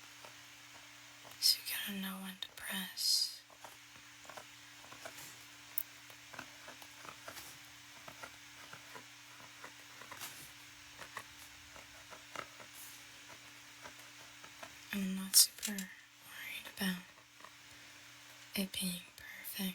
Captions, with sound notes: So you kind of know when to press. (Tapping On Paper) I'm not super worried about it being perfect.